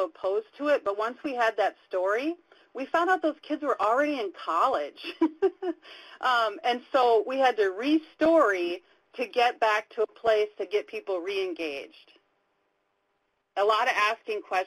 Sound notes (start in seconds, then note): 5.1 laughs